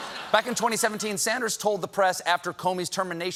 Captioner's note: laughter